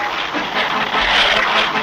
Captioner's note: splash!